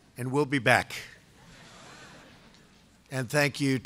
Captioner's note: laughter